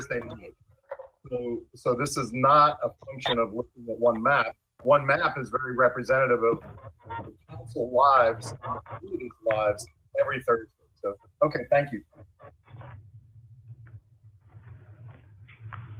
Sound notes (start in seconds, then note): 2.2 ~audio distortion~